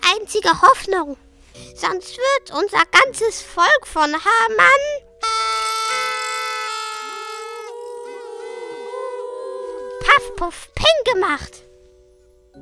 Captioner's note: noisemakers